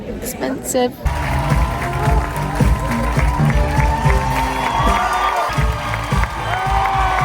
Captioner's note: crowd cheers; upbeat music